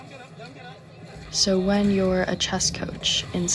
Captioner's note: people chattering